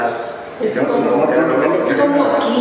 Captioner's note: various voices